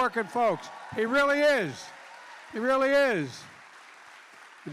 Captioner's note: applause